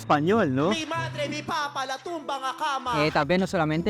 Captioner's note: average conversation in Spanish